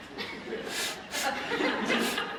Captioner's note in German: schnuppert